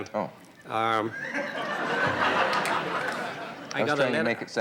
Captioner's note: audience laughs